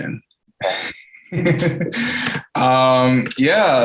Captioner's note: laughs